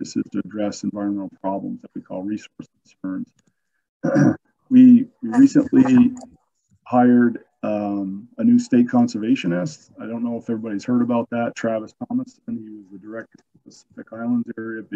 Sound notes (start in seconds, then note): 4.0 clears throat